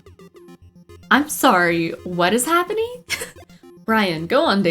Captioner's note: laughs